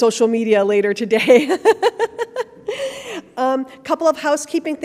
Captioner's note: laughing